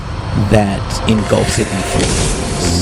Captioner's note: magical sound